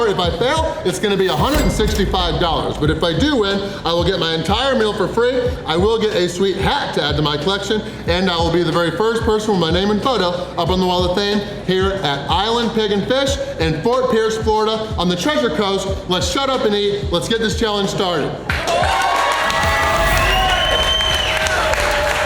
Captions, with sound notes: If I fail, it's going to be $165, but if I do win, I will get my entire meal for free. I will get a sweet hat to add to my collection, and I will be the very first person with my name and photo up on the Wall of Fame here at Island Pig and Fish in Fort Pierce, Florida, on the Treasure Coast. Let's shut up and eat. Let's get this challenge started!! (crowd cheering)